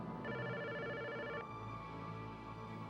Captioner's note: telephone rings